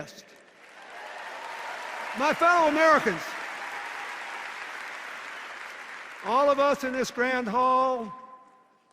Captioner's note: cheers and applause